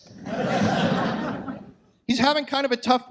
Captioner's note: audience laughs